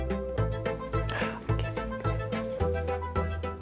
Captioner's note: whispers